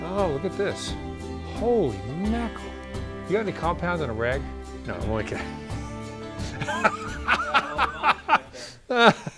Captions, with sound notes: Oh, look at this. Holy mackerel. You have any compound and a rag. No, I'm only kidding. (laughs)